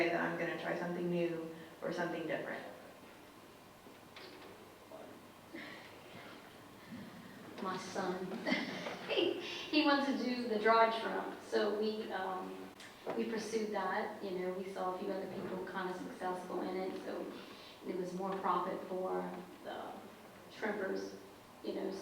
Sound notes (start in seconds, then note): 8.2 laughs